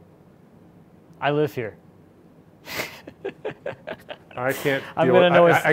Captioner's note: laughing